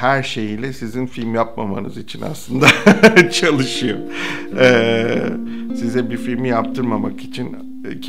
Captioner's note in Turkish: Gülme